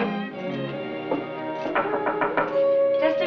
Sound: knocking on door

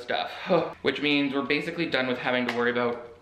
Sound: sighs

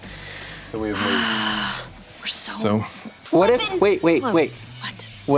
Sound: sighs

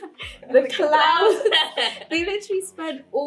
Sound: laughs

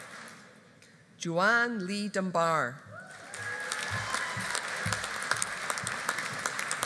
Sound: audience applauding

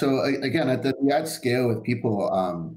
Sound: murmurs

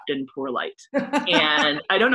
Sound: laughter

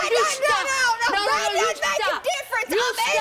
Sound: yelling

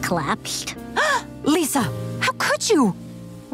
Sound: gasping

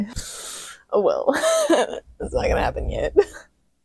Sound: laughter

